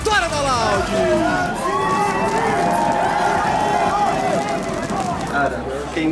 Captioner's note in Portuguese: aplausos